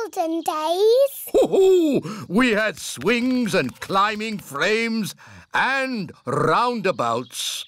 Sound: laughs

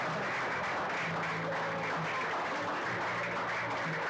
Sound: audience cheering

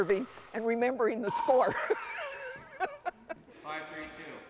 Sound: laughs

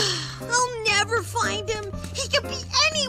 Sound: sighs

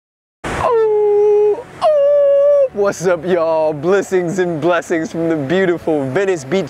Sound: howling

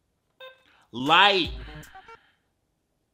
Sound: diary beeps

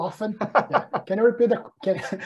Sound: facilitator laughs

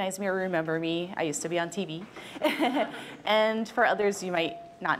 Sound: chuckles

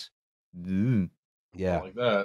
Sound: gulps nervously

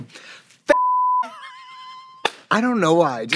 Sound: Katya laughs, claps

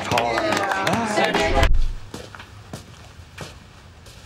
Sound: cheers and applause; feet shuffling

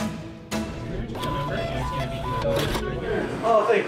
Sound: printer beeps

